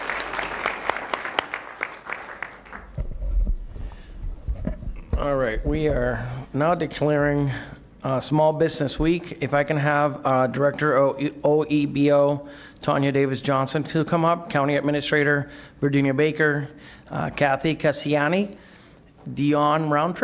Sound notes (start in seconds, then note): 3.7 applause